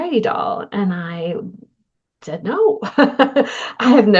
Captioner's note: laughter